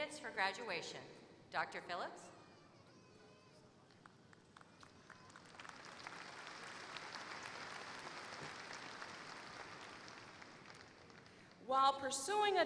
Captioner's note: applause